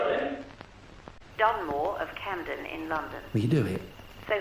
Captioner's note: radio Announcer